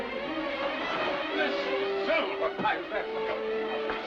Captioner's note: suspenseful music; man's voice yelling; suspenseful music